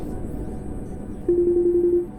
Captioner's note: phone ringing